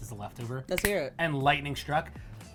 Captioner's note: snapping